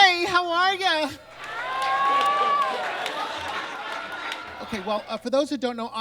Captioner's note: audience cheers and claps